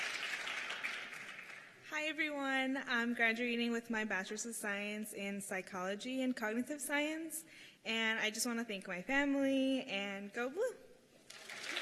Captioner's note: cheers and applause